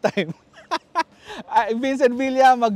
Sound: laughs

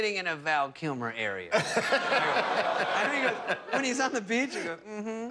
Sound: laughter

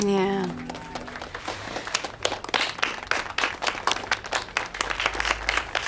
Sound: clapping

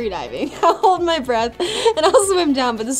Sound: laughs

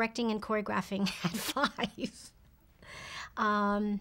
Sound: giggling

